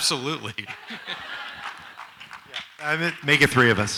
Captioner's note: audience laughs